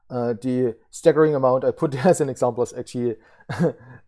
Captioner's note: laughs